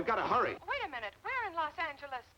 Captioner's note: on phone